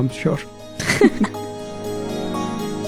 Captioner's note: chuckling